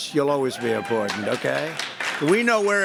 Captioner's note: applause